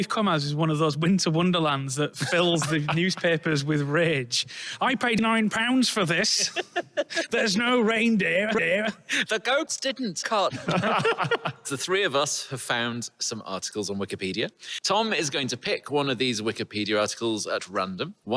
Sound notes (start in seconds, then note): 6.2 giggles; 10.4 the group laughs